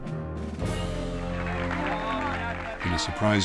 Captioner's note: audience cheering and applauding